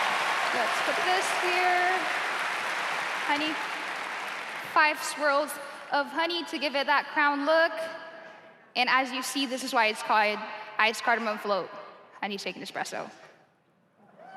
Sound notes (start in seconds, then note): 2.8 cheers and applause